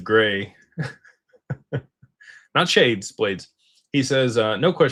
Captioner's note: laughter